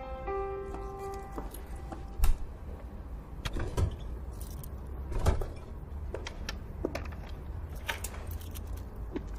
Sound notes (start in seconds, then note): 2.2 clanking sound